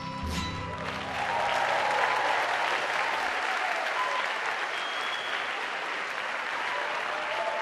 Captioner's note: applause